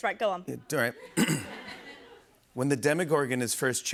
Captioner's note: clears throat